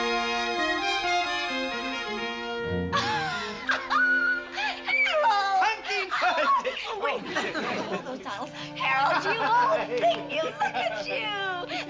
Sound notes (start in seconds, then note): 2.6 laughs